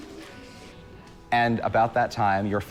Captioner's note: none